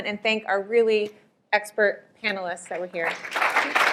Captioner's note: applause